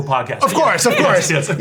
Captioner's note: laugh